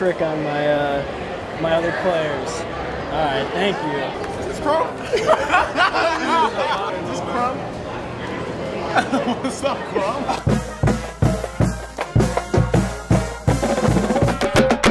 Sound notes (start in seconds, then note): 5.0 laughing; 10.2 marching band music; 14.7 drum line music